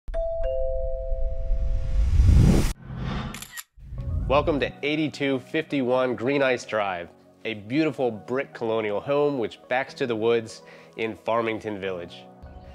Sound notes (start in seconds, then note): 0.1 doorbell rings; 3.3 shutter clicks